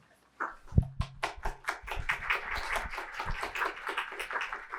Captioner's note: applause